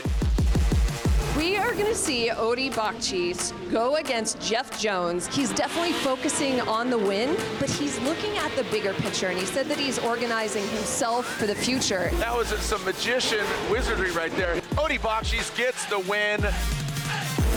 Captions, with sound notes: (bold upbeat music plays) - We are gonna see Odi Bakchis go against Jeff Jone He's definitely focusing (engines rumble) on the win, but he's looking at the bigger picture, and he said that he's organizing for the future. - That was some magician wizardry right there. Odi Bakchis gets the win.